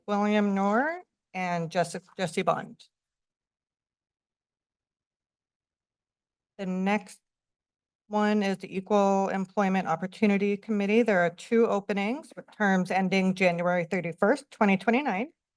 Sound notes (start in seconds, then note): 2.9 pause